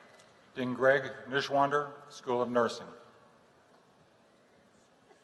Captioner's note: none